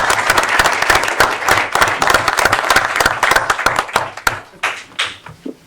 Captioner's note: applause